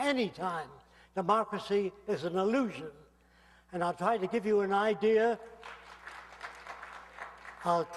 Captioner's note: aplausos